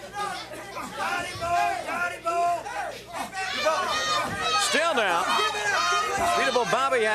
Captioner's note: crowd chatter